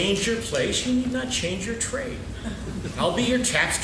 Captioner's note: laughing